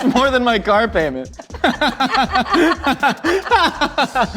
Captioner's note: laughter